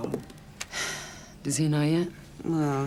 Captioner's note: sighs